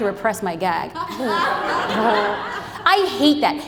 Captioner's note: audience laughs